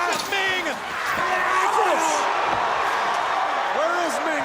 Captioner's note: crowd cheering